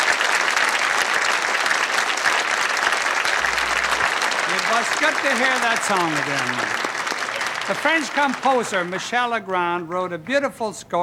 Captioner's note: applause